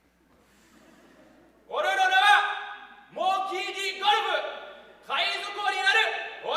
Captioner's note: speaking in foreign language